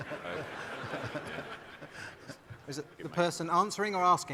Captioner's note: audience laughing